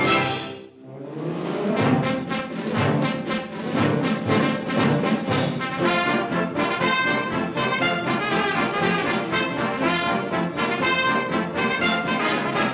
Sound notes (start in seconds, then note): none